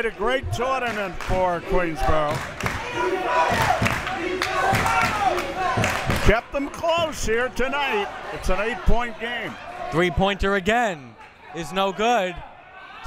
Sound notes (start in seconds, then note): 2.6 crowd members chanting